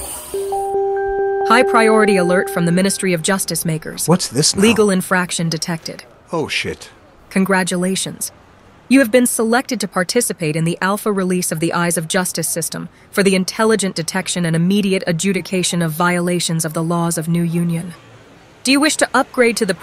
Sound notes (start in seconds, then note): 1.4 AI Voice; 7.3 AI Voice